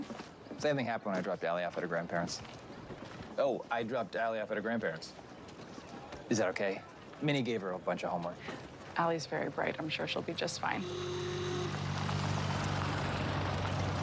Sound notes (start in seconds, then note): 10.6 horn honking